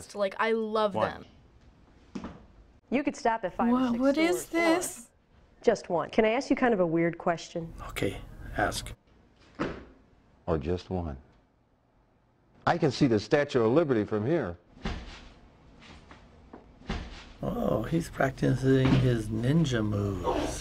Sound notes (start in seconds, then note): 2.1 shoe tap; 9.4 shoe tap; 14.8 clothes ruffling